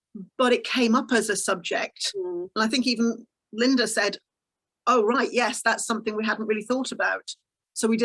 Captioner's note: none